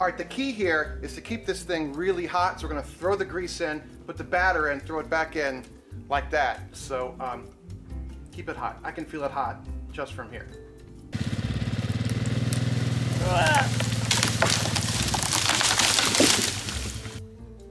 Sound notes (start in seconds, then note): 5.8 snaps; 11.1 four-wheeler engine purring; 13.3 woman yells; 14.3 tree crackling; 17.2 bright jazz music